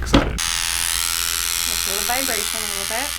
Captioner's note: Dermapen whirs